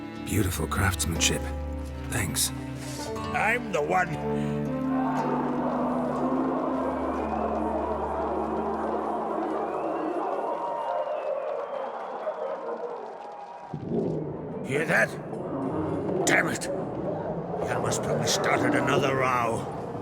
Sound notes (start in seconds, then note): 5.9 muffled chanting; 9.2 muffled cheering; 14.6 muffled growling